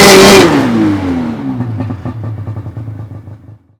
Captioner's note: engine revs